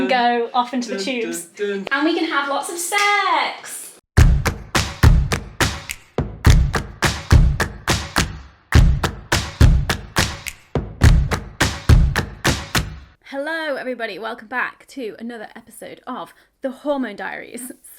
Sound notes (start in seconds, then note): 4.0 claps; 4.2 upbeats music